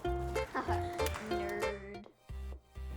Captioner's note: laughter